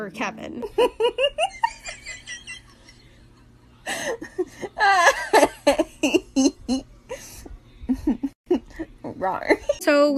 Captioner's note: hahahah rawr